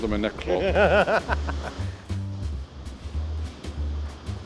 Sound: laughs

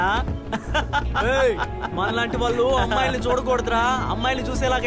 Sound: laughs

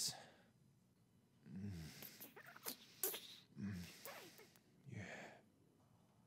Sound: kissing sounds

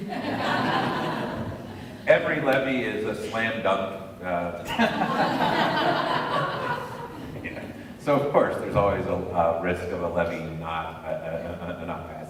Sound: laughter

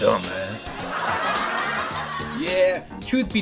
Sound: audience laughter

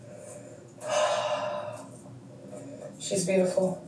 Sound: sighs

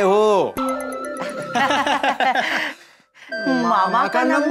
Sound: laughing

